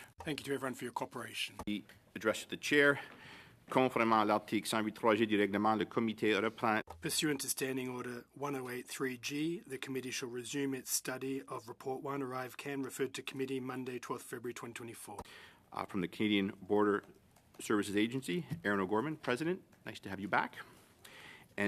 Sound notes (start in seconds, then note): 5.0 speaking in French